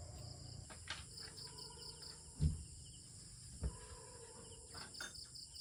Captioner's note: nature sounds in the countryside